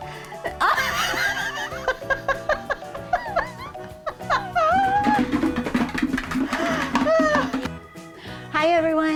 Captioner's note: laughing